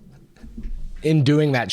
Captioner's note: laughs